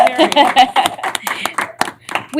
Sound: laughter; applause

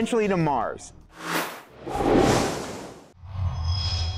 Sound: sound Effects

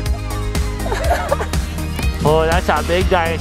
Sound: laughs

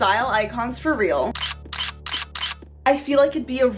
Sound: camera snaps

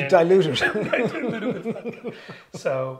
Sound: both laughing

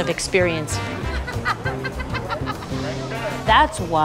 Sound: laughter

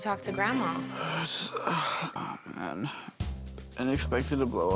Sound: sighs

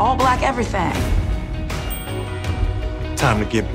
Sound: ping

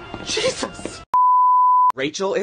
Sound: TV Color Bars Sound Effect

